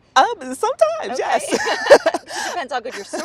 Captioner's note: laughter